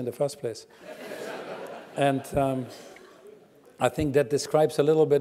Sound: laugh

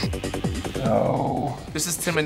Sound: groaning

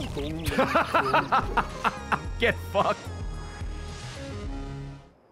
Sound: laughs

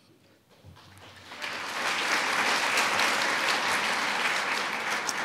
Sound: audience applauds

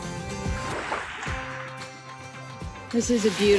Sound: waves gently lapping

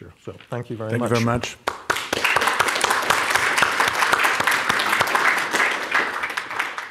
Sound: audience applauding

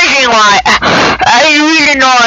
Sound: gasp

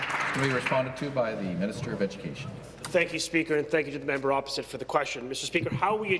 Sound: applause

